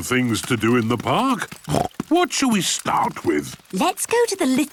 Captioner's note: snorts